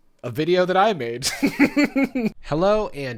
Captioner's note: laughing